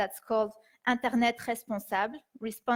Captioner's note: speaking in foreign language